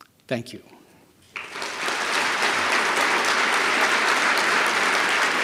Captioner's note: applause